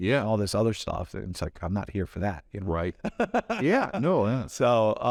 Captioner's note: laughs